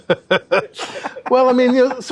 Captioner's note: both laugh